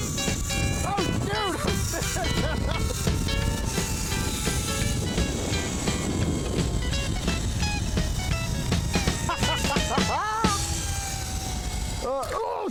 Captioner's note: laughter